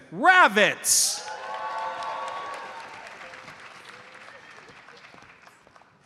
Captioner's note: audience cheers and applauds